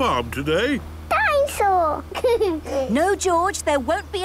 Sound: giggles

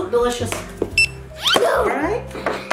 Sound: scanner beeps

